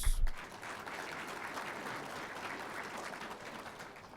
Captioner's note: audience applauding